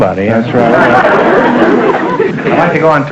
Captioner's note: audience laughter